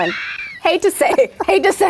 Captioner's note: laughing